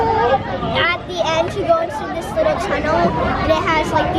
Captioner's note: none